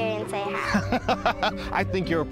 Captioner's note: laughing